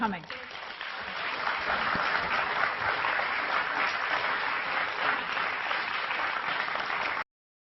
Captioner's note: applause